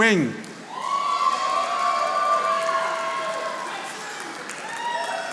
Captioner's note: audience applauding